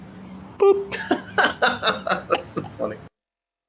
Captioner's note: laughs